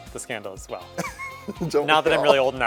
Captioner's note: laughter